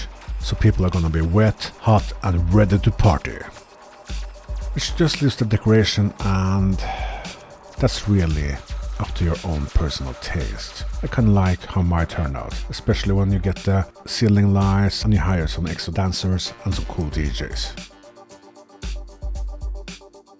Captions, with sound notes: So people are gonna be wet, hot and ready to party. Which just leaves the decoration, and, (breath)... That's really up to your own personal taste. I kinda like how mine turned out. Especially when you get the ceiling lights. And you hire some extra dancers. And some cool DJs.